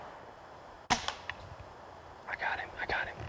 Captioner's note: gun firing